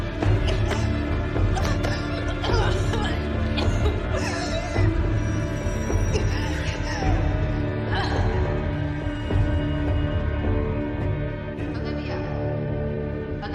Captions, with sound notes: (coughghing) (suspenseful music) - Olivia. Olivia?!